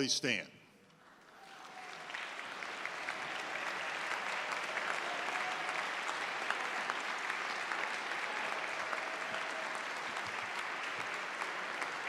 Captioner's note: applause